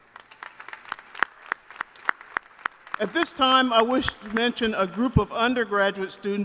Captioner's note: applause